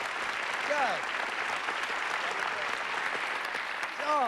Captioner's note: applause